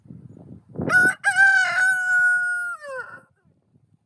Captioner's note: rooster Crows